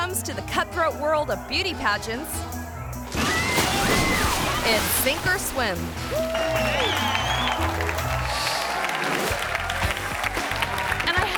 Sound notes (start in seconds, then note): 3.2 spectator whistling; 6.0 audience applauding and cheering